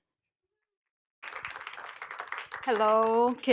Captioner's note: applause